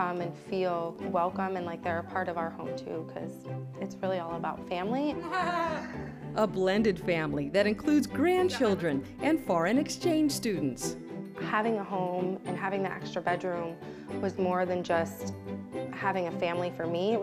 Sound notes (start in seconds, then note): 5.2 family laughs